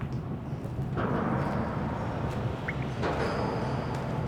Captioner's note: metal clanging